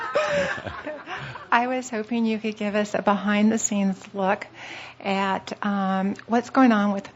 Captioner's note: laughter